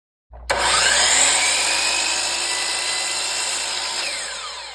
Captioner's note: sound of Saw